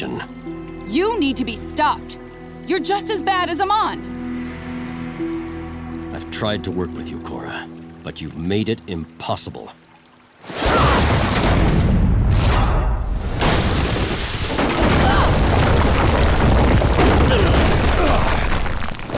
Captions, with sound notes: You need to be stopped! You're just as bad as Amon! I've tried to work with you, Korra, but you've made it impossible. [grunting] [groaning]